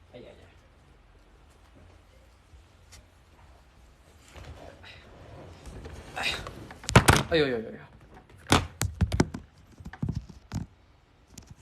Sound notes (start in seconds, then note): 5.8 crash